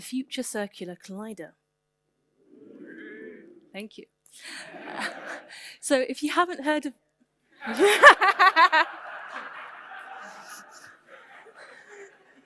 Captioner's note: audience: ooooh